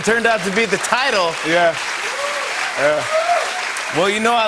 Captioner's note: cheers and applause